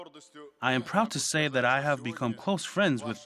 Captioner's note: uzbek